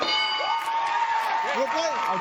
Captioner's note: cheers and applause